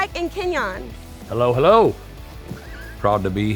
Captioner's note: chuckles